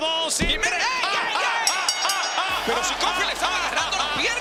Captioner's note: laugh